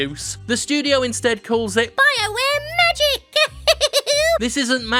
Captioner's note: giggles